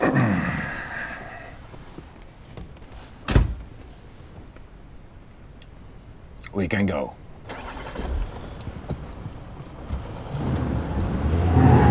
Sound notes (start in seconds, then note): 3.2 car door thudding; 7.5 car engine revving